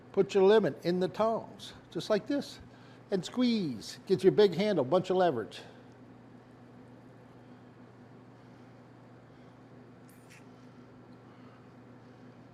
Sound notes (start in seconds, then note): 6.2 silence